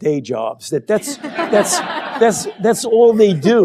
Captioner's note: laughter